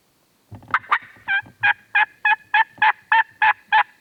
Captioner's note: turkey call